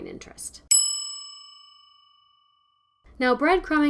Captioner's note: bell rings